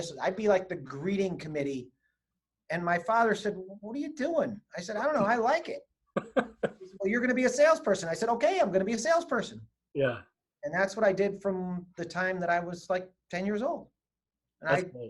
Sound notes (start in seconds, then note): 6.2 laughing